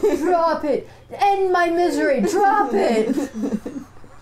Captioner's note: laughter